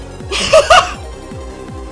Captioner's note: insane laughter